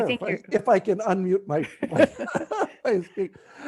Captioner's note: laughs